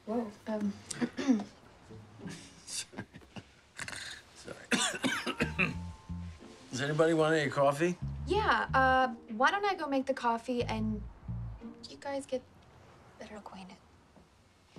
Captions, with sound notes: Well, um... [CLEARS THROAT] [SNORTING] Sorry. [COUGHING] Does anybody want any coffee? Yeah, uh... Why don't I make the coffee and you guys get better acquainted.